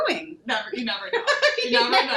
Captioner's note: laughing